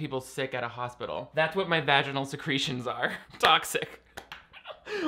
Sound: laughing

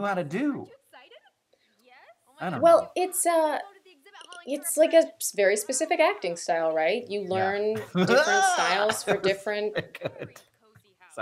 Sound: scary clown laughter

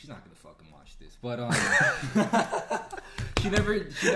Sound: laughing

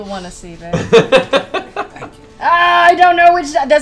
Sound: laughs

